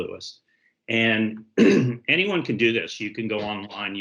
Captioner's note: clears throat